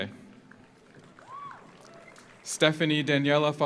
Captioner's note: audience applauds; audience cheers